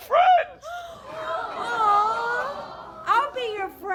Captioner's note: audience gasps